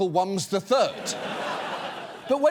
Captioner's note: audience laughs